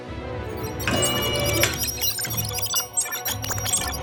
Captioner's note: machine blipping